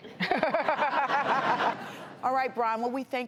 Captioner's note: audience laughs